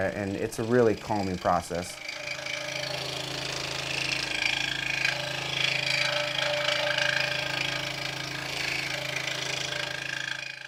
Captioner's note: saw buzzing